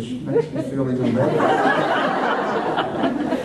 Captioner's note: laughter